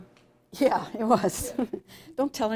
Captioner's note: chuckling